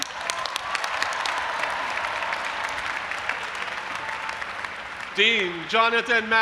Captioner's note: audience applauding and cheering